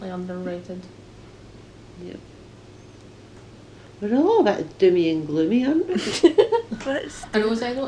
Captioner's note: laughter